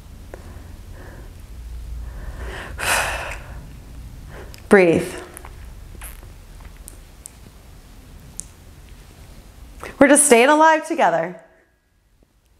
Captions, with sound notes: [breathing] Breathe. We're just staying alive together.